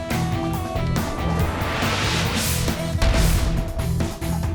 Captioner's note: screen whooshing; upbeat music